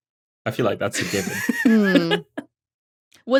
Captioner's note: giggles